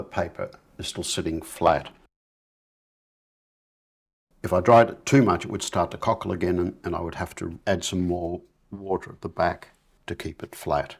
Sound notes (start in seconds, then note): 4.0 silence